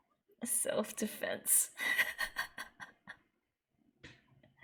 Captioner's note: laughs